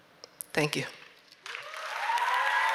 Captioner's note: applause